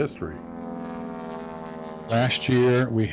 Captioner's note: propeller airplane flying over